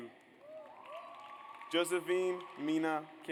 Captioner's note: audience applauds